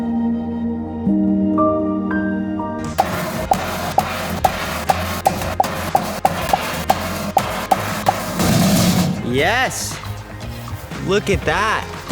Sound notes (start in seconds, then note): 3.0 metal box clangs